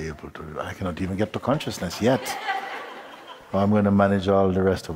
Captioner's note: laughter